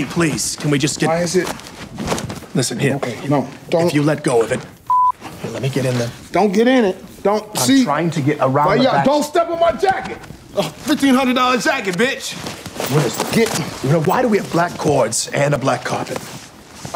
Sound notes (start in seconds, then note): 4.8 beep